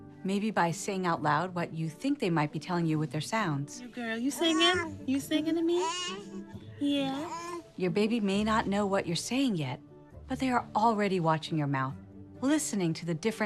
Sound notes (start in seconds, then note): 4.3 baby coos